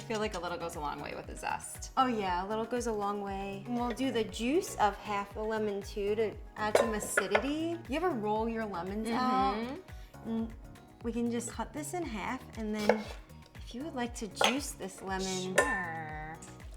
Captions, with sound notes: I feel like a little goes a long way with the zest. - Oh, yeah, a little goes a long way. And we'll do the juice of half the lemon too, to add some acidity. (juicer thudding) You ever roll your lemons out? - Mm-hmm. - Mm. We can just cut this in half. (knife clattering) And then if you would like to juice this lemon. - Sure.